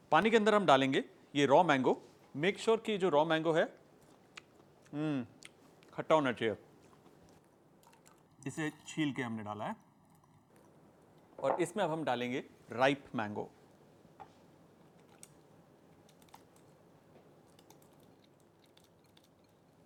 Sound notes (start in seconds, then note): 4.9 yummy noises